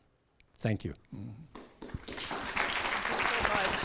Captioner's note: applause